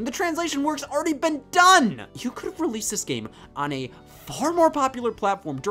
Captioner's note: none